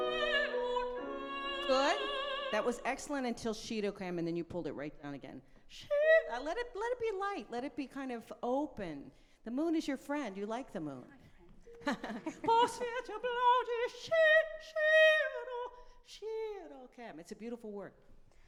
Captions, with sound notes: Good, that was excellent until (speaking in a foreign language) then you pulled it right down again. (singing in a foreign language) Let it be light, let it be open. The moon is your friend, you like the moon. - Hi friend. (laughing) (singing in a foreign language) It's a beautiful word.